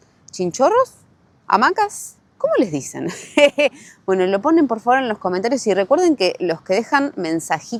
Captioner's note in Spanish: risas